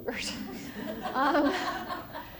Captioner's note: laughter